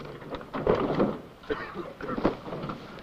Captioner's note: coughing